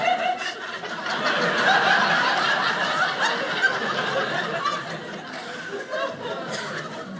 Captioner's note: audience laughing